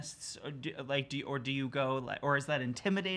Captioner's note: stutters